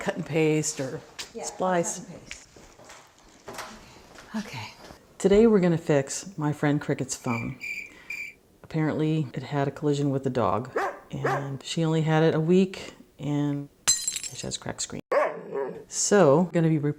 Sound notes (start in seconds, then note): 7.3 cricket sounds; 10.7 bark bark; 13.8 glass breaking